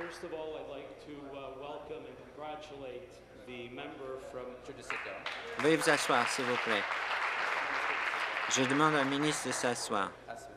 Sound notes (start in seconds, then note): 0.5 applause